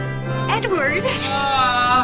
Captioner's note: As Edward, laughter